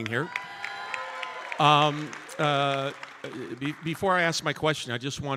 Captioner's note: audience cheering and applauding